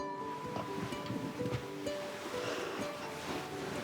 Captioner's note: sheets rustle